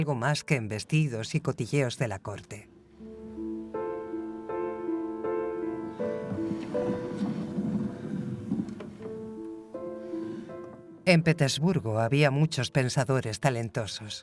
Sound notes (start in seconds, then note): 5.6 gentle music continues; 5.6 globe rumbles